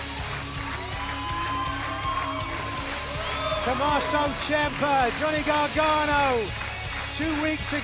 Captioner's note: cheers and applause